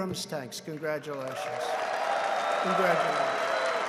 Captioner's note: applause